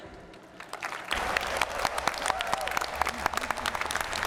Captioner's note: applause